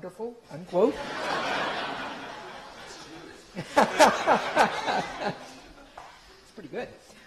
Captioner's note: laughter